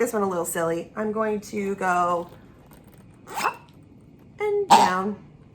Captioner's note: zip sound; pig sound effect